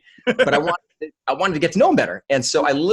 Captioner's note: laughs